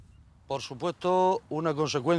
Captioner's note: non-english speech